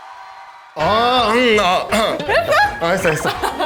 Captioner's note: he couldn't handle the awkwardness and started coughing